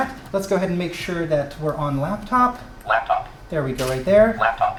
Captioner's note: touchpanel voice says "laptop"